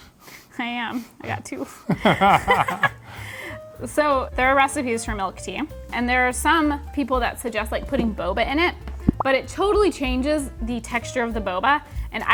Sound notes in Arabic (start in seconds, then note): 1.8 يضحك